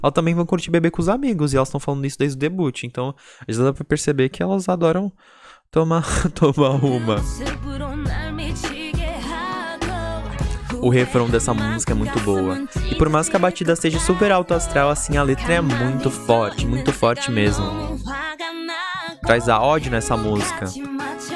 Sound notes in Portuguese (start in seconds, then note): 11.9 risos